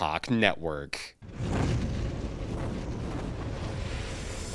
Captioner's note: bird flying